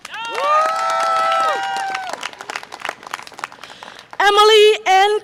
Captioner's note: audience applause and cheer